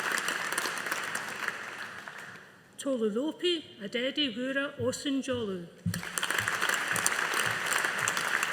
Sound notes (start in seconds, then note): 5.9 audience applauding